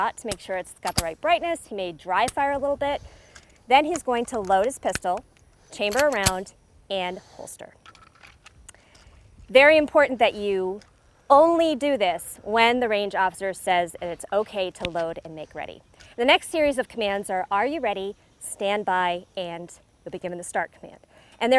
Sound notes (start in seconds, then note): 0.8 gun dry firing; 5.8 gun chamber clicking